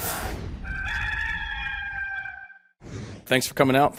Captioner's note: rooster crows